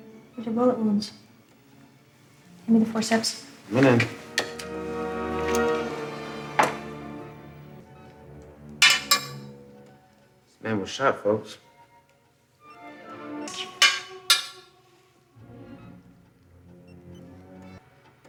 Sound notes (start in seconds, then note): 3.8 dramatic music; 8.8 bullet clangs; 12.6 dramatic music; 13.8 bullet clangs